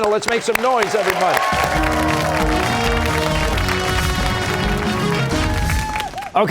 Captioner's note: cheers and applause